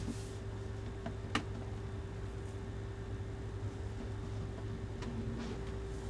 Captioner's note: air conditioner humming continues